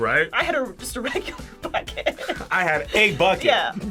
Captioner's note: laughs